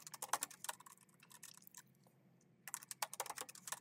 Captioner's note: keyboard clacking